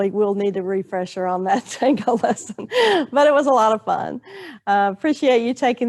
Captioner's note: laughing